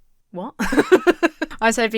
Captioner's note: laughs